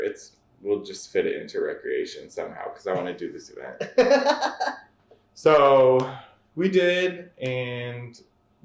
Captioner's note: laughter